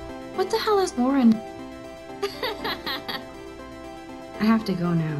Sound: laughs

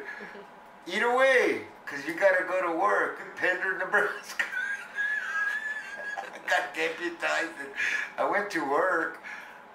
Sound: laughs

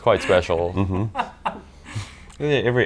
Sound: laughing

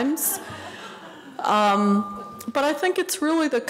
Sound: audience laughing

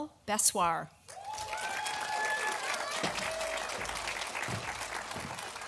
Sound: audience applauding

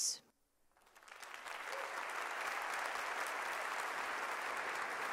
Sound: audience applauding

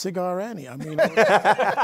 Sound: laughter

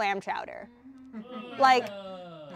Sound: audience groaning

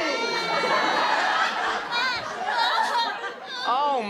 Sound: audience laughter

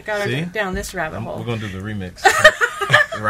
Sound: laughs

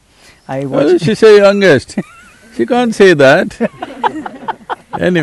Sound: laughs

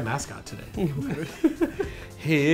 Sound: laughs

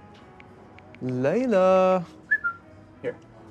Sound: whistles

